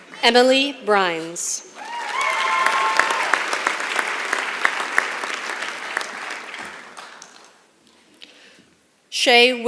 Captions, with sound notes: Emily Brines. [ Applause ] Shae Wittig.